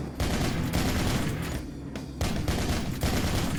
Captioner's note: gunshots fire